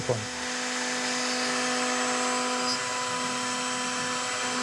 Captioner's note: machine buzzing